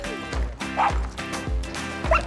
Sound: barks

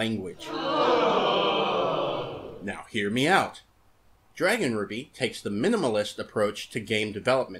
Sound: crowd groan

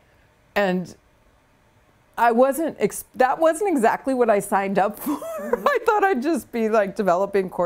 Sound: laughs

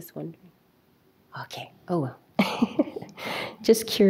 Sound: chuckles

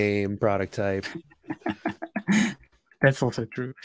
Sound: laughs

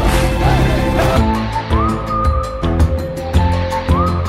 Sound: whistling

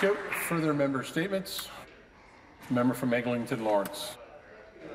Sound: applause

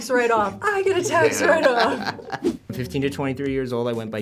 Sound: React laughs

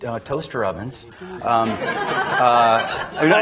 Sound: attendees laughing

